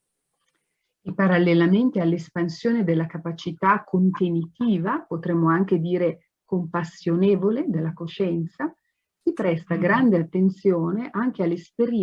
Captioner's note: speaks Italian